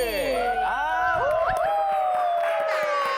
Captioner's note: starting with loud cheers